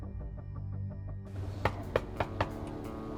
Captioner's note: knocks